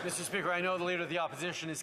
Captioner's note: applause